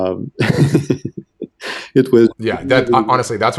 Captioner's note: laughing